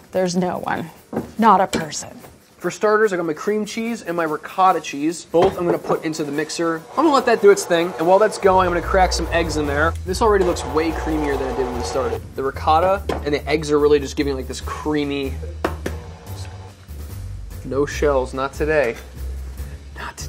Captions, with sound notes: There's no one, not a person. - For starters I got my cream cheese and my ricotta cheese. Both I'm gonna put into the mixer. I'm gonna let that do its thing, and while that's going, I'm gonna crack some eggs in there. This already looks way creamier than it did when we started. The ricotta and the eggs are literally just giving like this creamy. [cracking egg] No shells, not today.